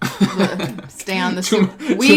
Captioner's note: laughs